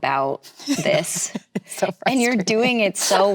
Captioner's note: laughs